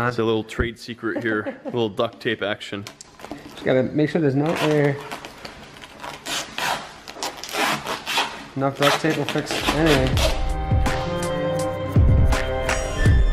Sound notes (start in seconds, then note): 1.0 laughter; 9.6 upbeat music